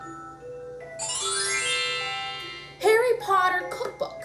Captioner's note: magic Sound